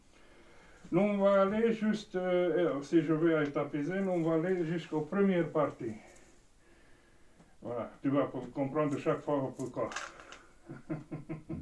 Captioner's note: laughs